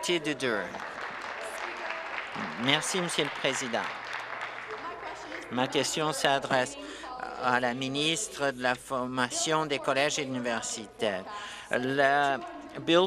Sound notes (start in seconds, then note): 4.0 applause